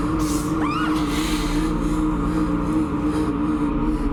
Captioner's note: screams